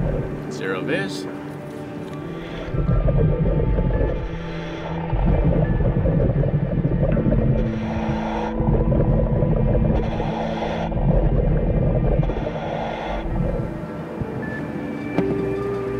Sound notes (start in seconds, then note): 3.0 nervous music; 3.0 scuba mask hissing